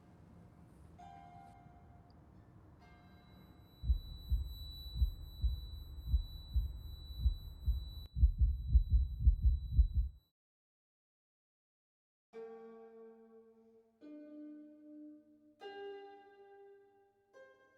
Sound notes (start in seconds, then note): 3.3 Matthew's ears ringing, heartbeat racing; 9.1 ringing and heartbeat intensify; 10.3 all sound cuts out